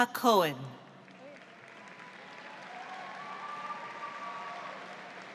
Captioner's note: audience applauds